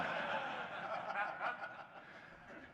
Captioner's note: laughter